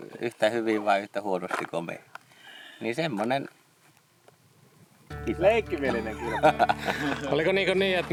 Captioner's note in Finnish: naurua